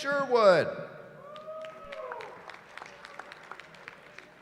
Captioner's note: cheering